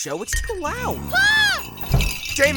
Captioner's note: screaming